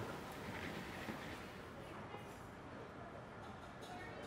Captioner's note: muffled chatter